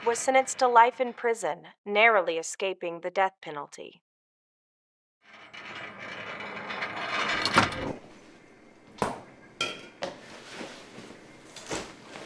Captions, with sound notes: was sentenced to life in prison, narrowly escaping the death penalty. (gate rattling) (items clattering)